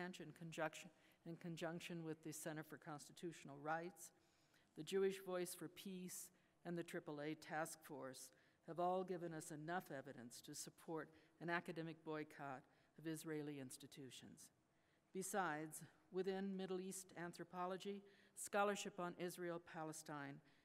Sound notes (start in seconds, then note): none